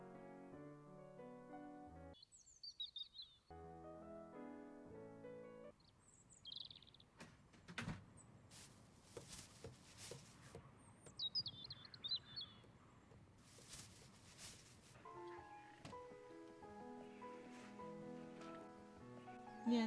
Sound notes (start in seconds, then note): 2.1 birds chirping; 3.4 gentle classical music; 5.7 birds chirping; 7.2 door closing; 8.5 footsteps plodding; 12.1 birds chirping; 15.4 gentle classical music continues